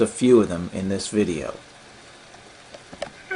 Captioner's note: hmmm